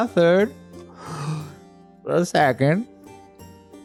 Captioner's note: inhales